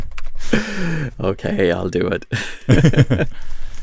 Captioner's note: laughs; laughs